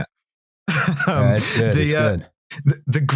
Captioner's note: laughs